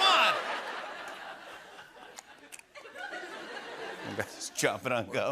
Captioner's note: laughter